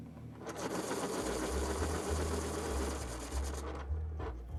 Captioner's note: dramatic music; pencil sharpens